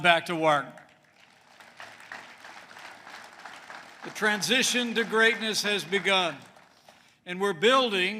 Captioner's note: applause